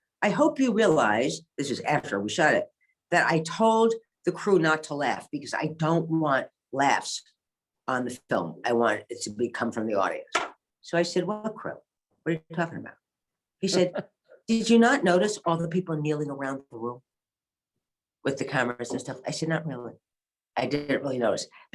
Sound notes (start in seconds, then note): 13.7 laughs